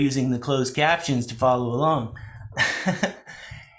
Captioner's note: laughs